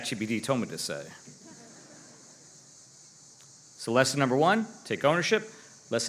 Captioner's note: laughter